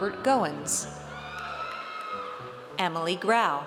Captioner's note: audience cheers